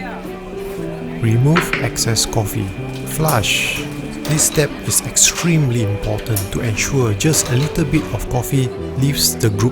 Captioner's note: flush